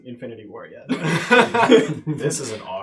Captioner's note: all laugh